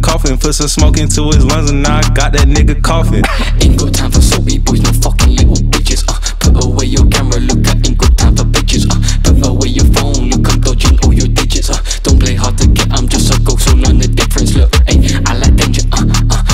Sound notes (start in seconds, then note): 3.1 cough